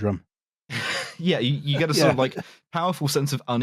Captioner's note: laughter